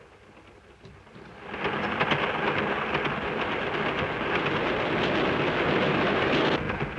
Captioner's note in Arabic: قطار يهدر ويهتز